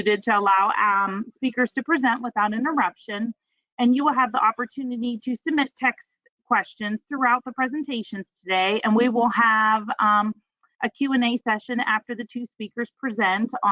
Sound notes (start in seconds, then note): none